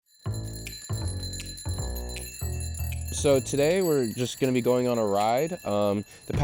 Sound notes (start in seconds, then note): 0.0 bells ringing; 0.2 upbeat music